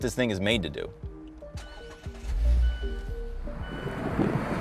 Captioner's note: engine humming; upbeat music